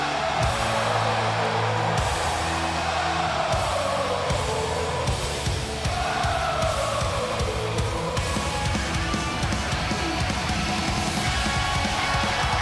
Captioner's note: cheers and applause